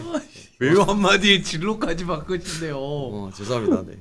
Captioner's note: laughing